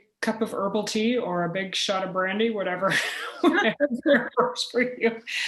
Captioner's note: chuckle; laughter